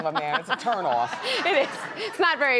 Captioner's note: laughs; audience laughs